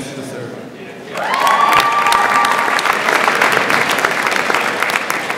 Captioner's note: audience applauds